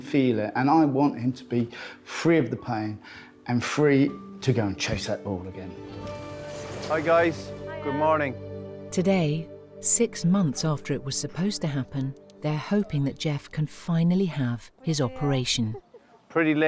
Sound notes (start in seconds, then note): 5.9 doors whooshing